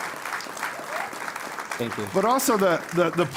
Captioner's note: applause